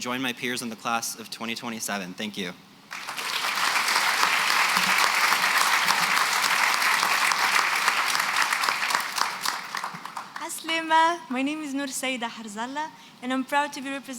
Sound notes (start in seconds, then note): 2.9 applause